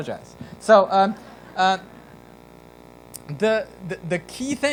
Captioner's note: laughter